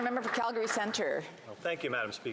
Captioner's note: some Applause